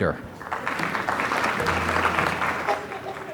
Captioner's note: applause